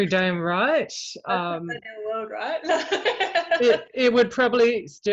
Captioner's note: mumbles